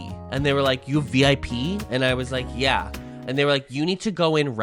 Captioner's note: none